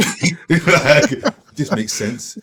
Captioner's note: laughing